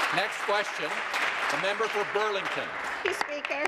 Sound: voice trailing; applause

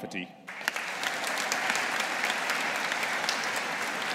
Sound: audience applauding

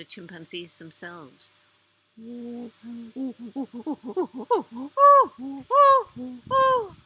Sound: pant hoot

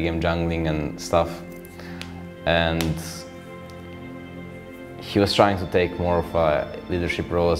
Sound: cracking knuckles

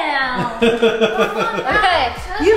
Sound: laughing

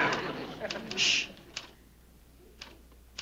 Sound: Ann typing slowly; shushing

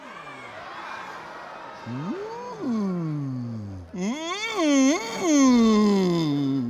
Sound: audience laughing; humming

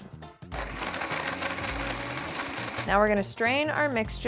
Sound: blender whirring

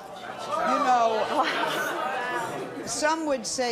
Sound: audience jeering

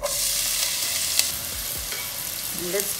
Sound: pan sizzling

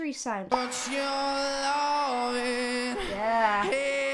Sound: audience cheers and applauds

